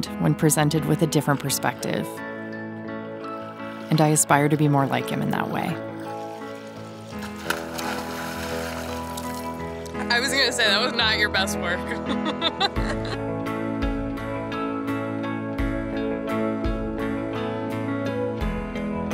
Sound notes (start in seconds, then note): 7.5 water splashing; 11.9 laughs